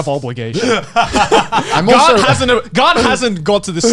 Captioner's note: laughs